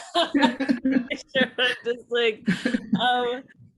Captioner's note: laughter